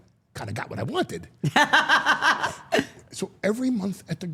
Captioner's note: Steph laughs